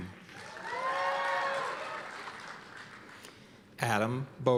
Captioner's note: cheers and applause